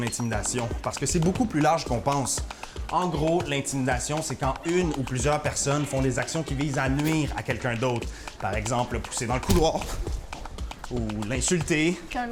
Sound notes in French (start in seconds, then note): none